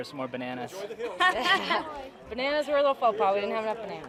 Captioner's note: woman laughs